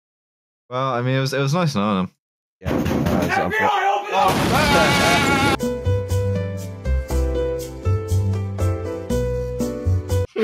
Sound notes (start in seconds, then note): 2.6 loud banging; 3.5 yelling; 4.2 crashing, glass shattering; 4.7 laughs; 5.6 chill elevator music; 10.2 laughter